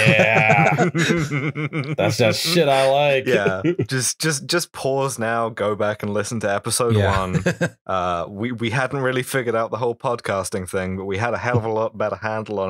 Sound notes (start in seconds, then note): 3.2 laughter